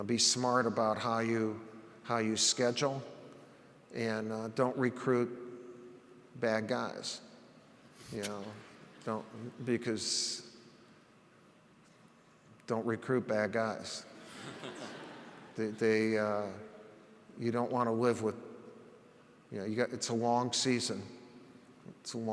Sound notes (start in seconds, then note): 14.2 audience laughs